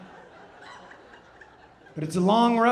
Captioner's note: audience laughing